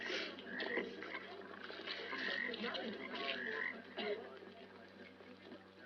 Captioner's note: conversations and frogs croaking